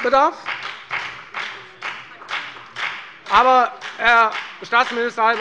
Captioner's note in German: Lebhafter Beifall bei der FDP